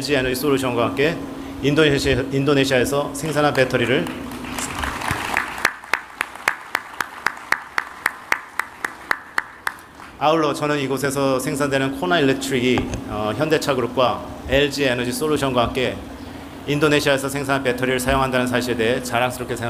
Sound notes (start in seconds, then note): 3.8 applause